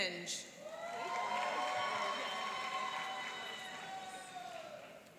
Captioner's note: cheering and applauding